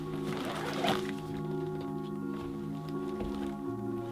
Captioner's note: pack unzips